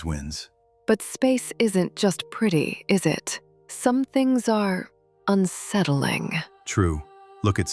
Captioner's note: thoughtful